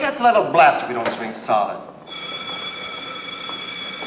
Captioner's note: bell Rings